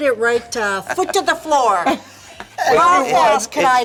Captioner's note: laughter